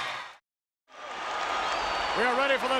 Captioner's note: crowd cheers